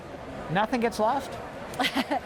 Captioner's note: laughter